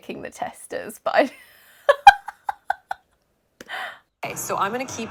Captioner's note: laughing